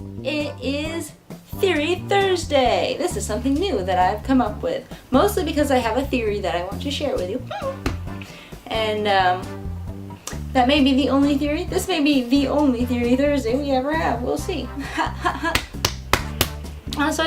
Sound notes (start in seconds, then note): 7.5 squeak; 16.3 huh, huh